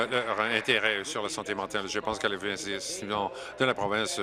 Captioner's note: applause